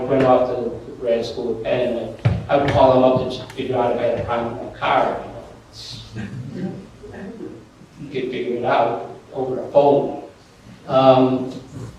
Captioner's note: laughter